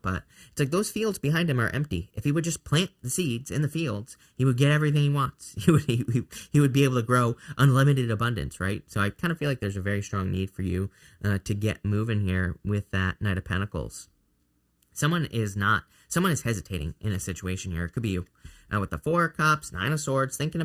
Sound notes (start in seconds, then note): 5.6 laughs